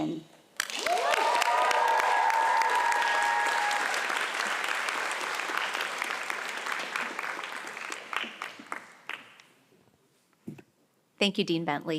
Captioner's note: applause